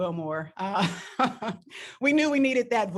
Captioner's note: laughs